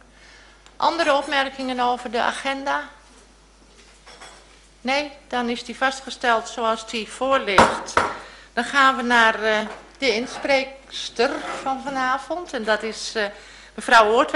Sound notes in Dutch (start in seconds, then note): 7.1 voorzitter klopt met hamer